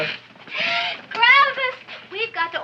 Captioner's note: gasps